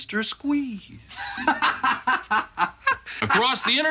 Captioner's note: Elliott laughs